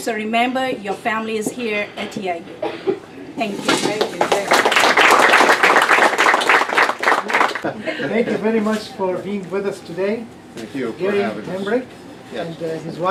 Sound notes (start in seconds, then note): 4.0 applause